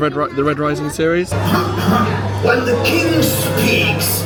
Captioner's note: character clearing throat